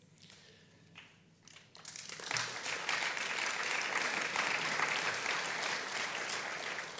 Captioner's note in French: Applaudissements